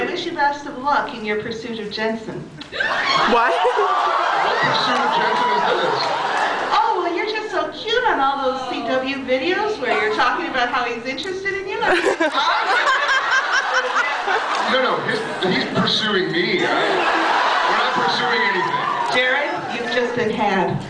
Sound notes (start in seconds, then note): 3.0 screams; 11.8 laughs; 16.6 laughs